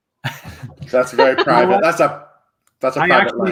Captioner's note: laughs